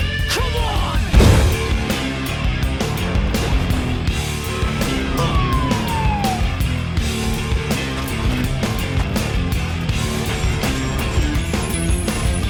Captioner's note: whooshing and exploding sounds, set to funk metal